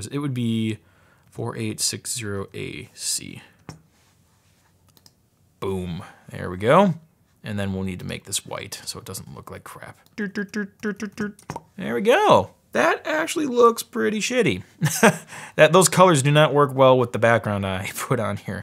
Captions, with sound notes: It would be 4860AC. Boom, there we go and then we'll need to make this white so it doesn't look like crap. Doo, doo, doo, doo, doo, doo. (pops) There we go. That actually looks pretty shitty. (laughs) Those colors do not work well with the background I put on here.